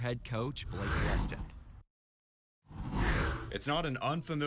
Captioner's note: air whooshes